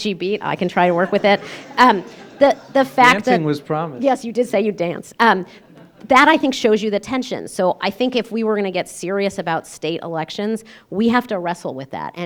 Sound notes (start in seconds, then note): 0.8 laughter